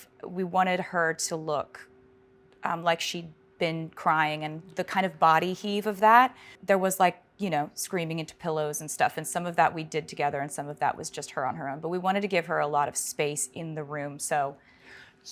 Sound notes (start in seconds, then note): none